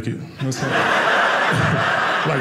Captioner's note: audience laughing